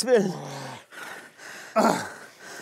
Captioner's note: Sie stöhnen